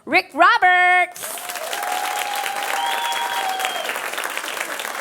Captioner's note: audience applauding